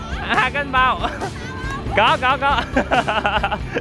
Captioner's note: the ladies laugh out loud